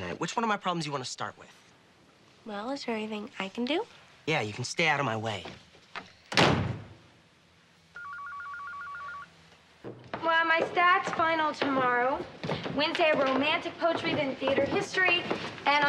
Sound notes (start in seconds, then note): 6.3 door slamming; 7.9 phone ringing